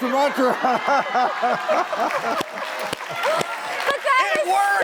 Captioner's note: audience laughs